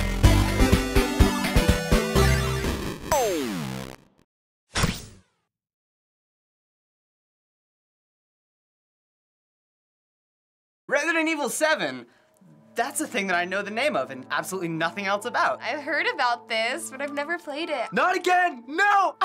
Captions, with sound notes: (silence) - "Resident Evil 7." That's a thing that I know the name of and absolutely nothing else about. - I've heard about this, but I've never played it. - Not again! No!